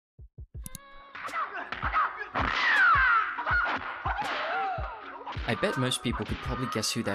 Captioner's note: bruce lee's distinct fighting screams